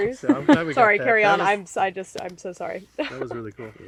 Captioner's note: laughs